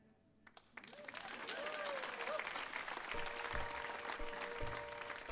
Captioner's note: audience whoops and applauds